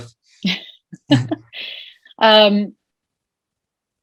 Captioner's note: laughing